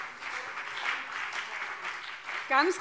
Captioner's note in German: Beifall CDU und BÜNDNIS 90/DIE GRÜNEN